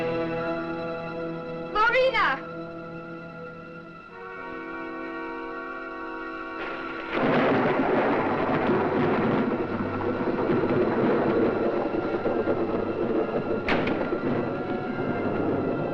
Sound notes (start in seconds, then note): 6.8 thunder rumbling; 13.7 door bangs